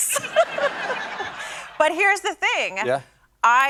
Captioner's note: laughs